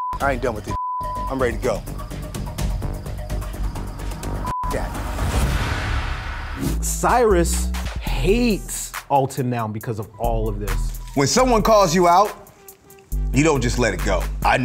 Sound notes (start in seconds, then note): 0.6 beep; 4.4 beep